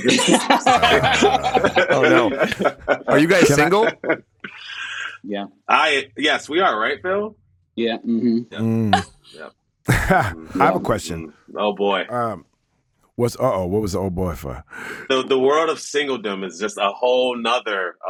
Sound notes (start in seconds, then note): 0.7 all laughing; 9.9 laughing